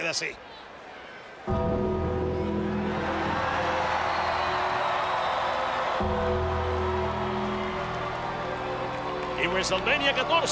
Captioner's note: applause